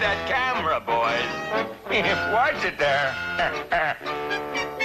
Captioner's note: Mr. Magoo chuckling